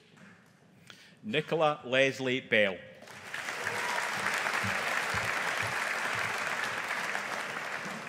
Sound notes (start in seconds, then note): 3.0 audience applauding